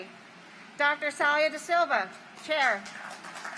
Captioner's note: applause